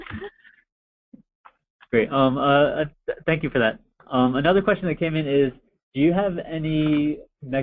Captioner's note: chuckles